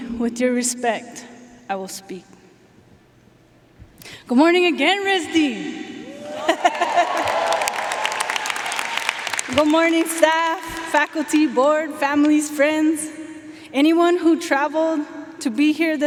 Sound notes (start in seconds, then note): 6.0 audience cheering; 6.2 laughing; 7.8 audience cheering and applauding